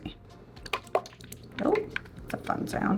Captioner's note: sauce thumping